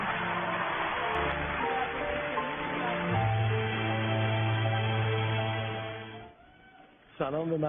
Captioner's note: applause